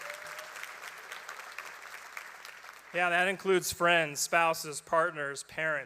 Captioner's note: applause